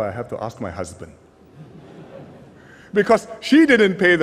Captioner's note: laughter